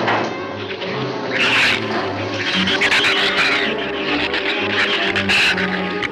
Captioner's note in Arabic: الزبابات تزأر وتثرثر